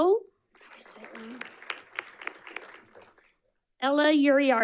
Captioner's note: audience clapping